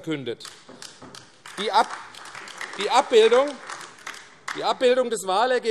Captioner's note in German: Beifall AfD